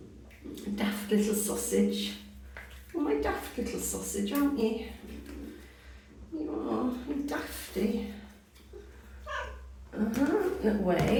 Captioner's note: meow